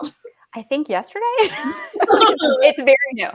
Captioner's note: laughing